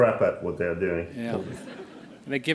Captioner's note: laughter